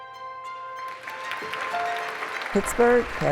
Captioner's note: audience applauding